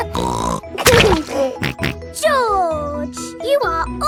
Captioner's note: laughs and snorts